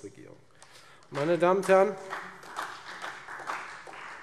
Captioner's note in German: Beifall Freie Demokraten und vereinzelt SPD